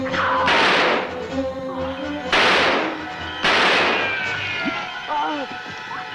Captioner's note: gunshots